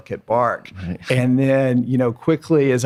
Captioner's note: laughs